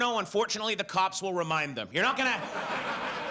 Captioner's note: audience laughs